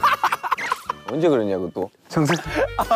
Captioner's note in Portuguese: está rindo tão alto